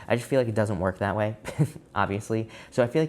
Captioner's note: chuckling